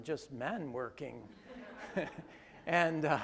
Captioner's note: groups laugh